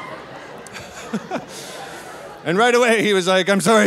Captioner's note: laughing